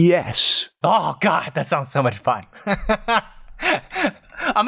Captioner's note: laughter